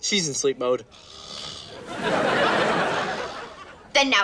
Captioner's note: snoring